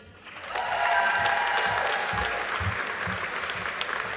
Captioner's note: audience applauding